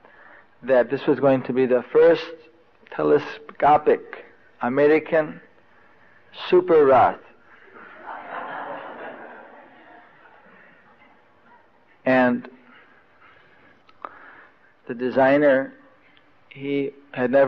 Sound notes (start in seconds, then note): 7.6 devotees laugh